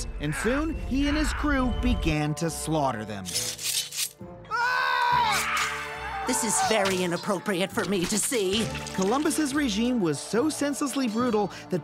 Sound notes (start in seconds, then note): 4.5 people screaming